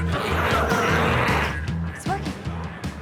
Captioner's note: glowzies growling